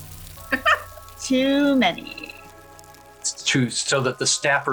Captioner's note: giant cockroaches eldritchly chitter